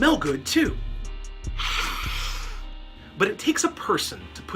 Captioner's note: sniff